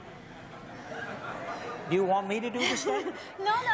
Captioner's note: laughter